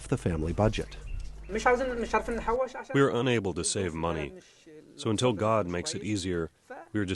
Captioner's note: through translator